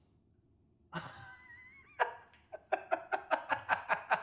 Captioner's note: laughter